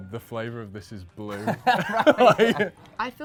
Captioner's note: laughs